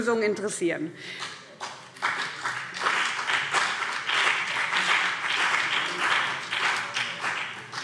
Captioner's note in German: Beifall BÜNDNIS 90/DIE GRÜNEN und vereinzelt CDU